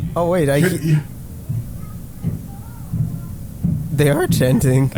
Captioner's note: incoherent thumping and chanting